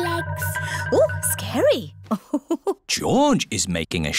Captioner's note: laughs